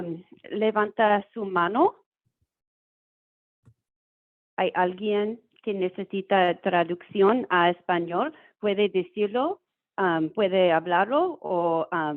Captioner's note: speaking Spanish